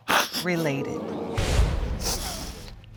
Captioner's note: audience exclaiming in disappointment